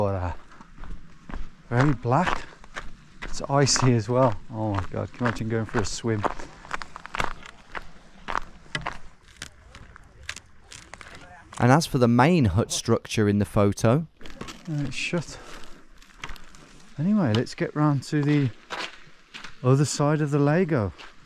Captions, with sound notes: Very black. It's icy as well. Oh, my god. Can you imagine going for a swim. (ice creaking) And as for the main hut structure in the photo. It's shut. Anyway, let's get round to the other side of the lago.